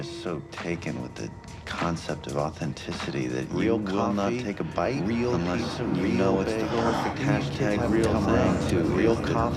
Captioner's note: ranting